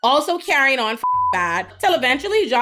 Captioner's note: beep